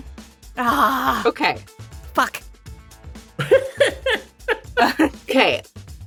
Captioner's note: chuckle